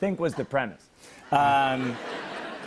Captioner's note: laughter